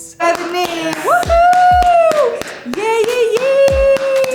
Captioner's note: Bella clapping